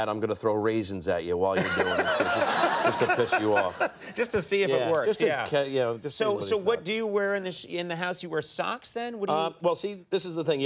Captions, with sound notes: I'm gonna throw raisins at you while you doing it, just to piss you off. (laughing) Just to see if it works. Yeah. Yeah. So, so what do you wear in the house? You wear socks then? Well, see, this is the thing.